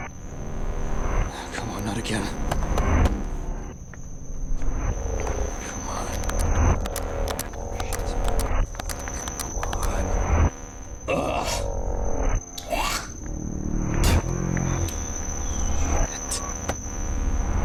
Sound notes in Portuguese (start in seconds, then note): 0.2 Distorção de áudio; 4.4 Distorção de áudio; 7.9 sussurrando; 9.4 sussurrando, frustrado; 10.2 Distorção de áudio; 12.6 NOAH cospe; 12.6 NOAH limpa a garganta; 14.7 Distorção de áudio